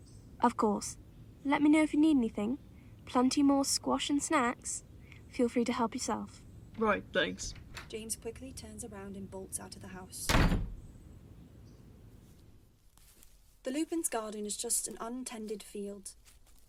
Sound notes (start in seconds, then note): 10.2 door shutting